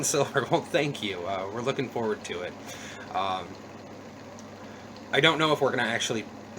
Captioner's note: chuckle